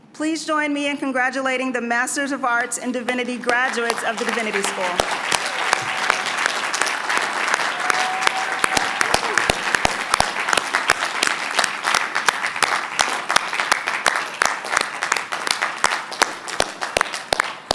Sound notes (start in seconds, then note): 5.0 applause